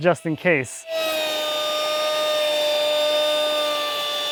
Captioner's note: sander whirring